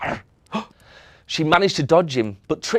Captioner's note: gasps